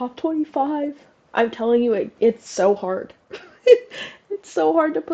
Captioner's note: laugh